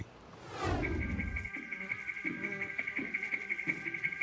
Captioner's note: fly buzzing